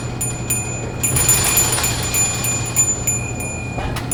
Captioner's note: bell ringing